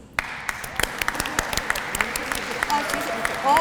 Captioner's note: applause